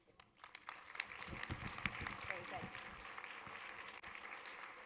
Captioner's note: audience applause